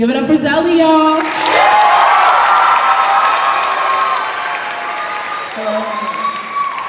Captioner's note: cheers and applause